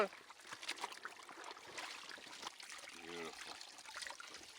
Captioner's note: water splashing